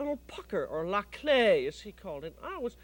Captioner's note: speaks French